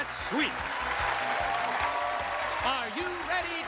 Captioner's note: cheers and applause